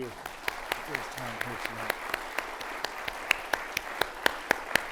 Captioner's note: audience applauding